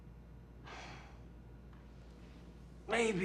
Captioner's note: sighs